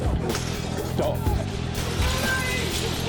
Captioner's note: glass breaking